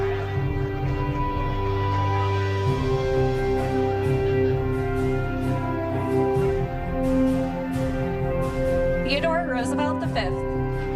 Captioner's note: applause